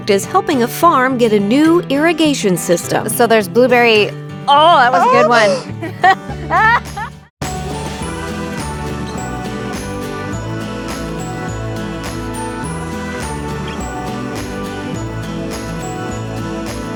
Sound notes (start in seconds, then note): 4.6 laughing; 7.7 bright music